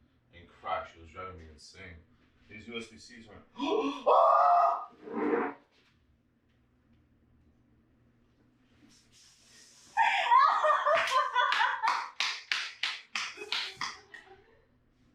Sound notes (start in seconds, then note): 3.6 screams; 4.9 dragging chair; 10.0 laughing; 10.7 clapping